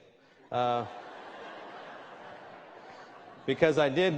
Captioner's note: laughter